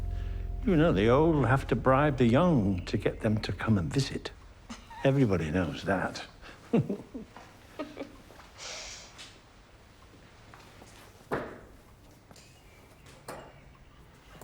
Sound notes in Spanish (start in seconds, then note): 6.6 risas; 6.6 Ambos se ríen